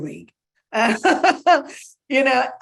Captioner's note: laughing